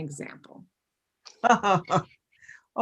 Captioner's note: chuckles